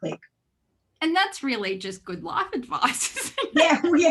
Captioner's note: laughs